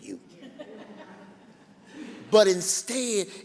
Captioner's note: laughing